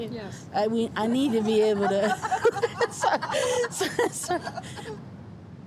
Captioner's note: everyone laughs